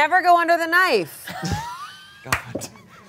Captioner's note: everyone laughs